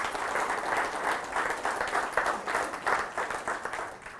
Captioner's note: audience applause